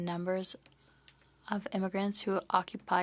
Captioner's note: speaking French